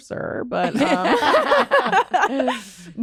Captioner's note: laughter